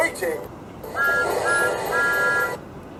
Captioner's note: thomas tooting